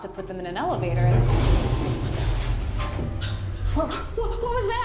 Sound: elevators crashes

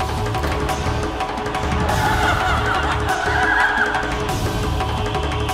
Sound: hooting

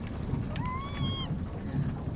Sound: happy Squeal?

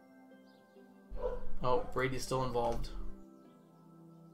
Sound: Brady barking

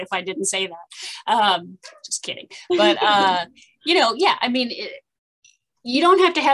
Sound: laughter

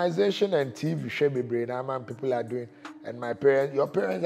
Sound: in twi

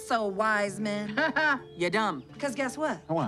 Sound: chuckles

